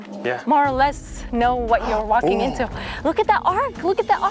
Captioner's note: gasps